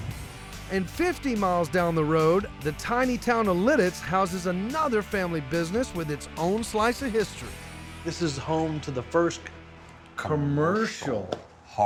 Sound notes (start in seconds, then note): none